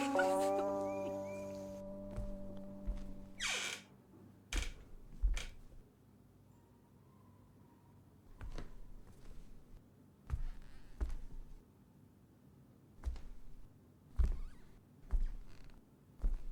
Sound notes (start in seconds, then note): 0.0 girls giggling; 3.7 door creaking; 8.2 footsteps